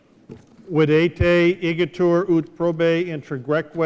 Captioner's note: speaking latin